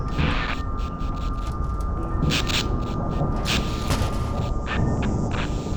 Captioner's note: fluorescent tube flickers